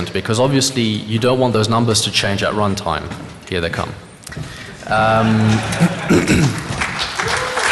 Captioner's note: applause